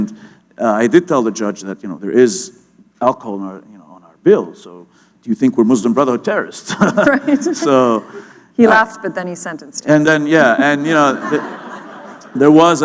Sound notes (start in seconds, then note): 6.7 laughter